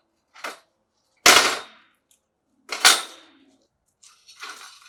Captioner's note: metal clanking